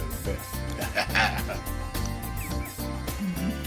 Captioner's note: laughs; upbeat R&B music